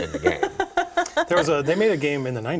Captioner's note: laughing